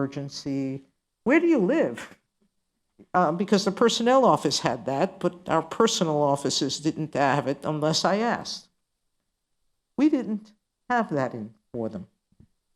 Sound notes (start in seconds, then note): none